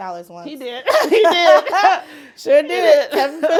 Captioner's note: laughs